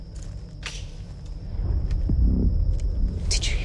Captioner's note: twig snapping